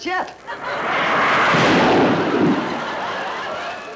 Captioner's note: jet engine noise